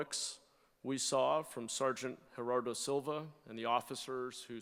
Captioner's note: none